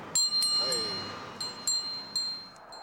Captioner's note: speaking in foreign language; bell chimes